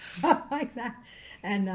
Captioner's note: laughing